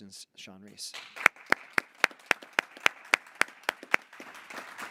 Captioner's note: board applauding